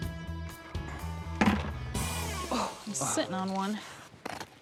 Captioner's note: rocks clunking